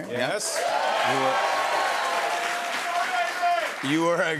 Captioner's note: cheers and applause